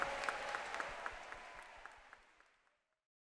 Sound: applause

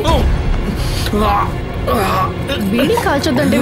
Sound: groans

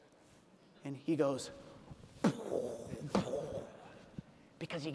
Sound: imitates explosion

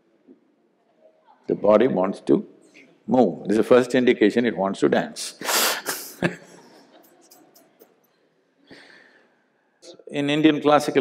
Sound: laughs

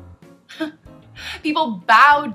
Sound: laugh

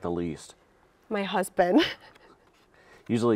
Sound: laughing

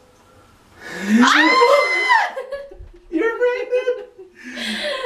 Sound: screams

